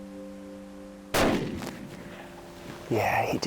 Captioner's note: gun shot